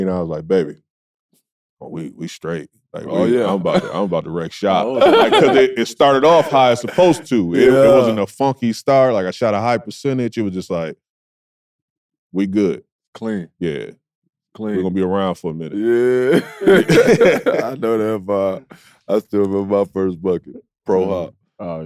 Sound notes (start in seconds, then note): 15.8 laughs